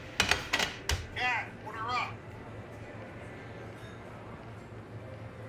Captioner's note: plates clinking